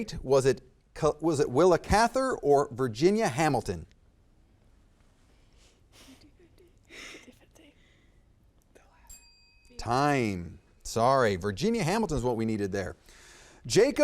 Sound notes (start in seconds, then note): 6.1 contestants murmuring; 9.0 bell ringing